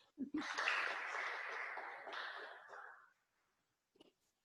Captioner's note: audience clapping